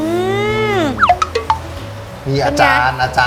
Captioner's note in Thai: เสียงเอฟเฟกต์